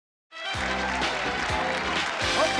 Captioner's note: applause and cheering